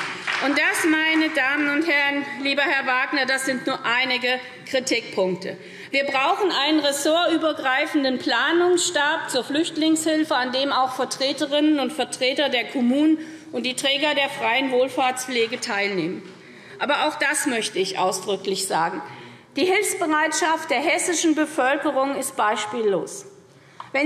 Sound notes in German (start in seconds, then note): 15.4 Beifall SPD